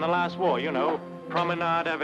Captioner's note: speaks in foreign language